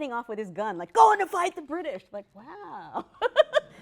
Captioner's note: laughs